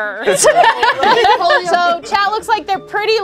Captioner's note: laughing